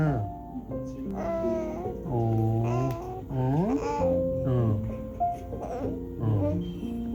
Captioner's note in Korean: 재잘재잘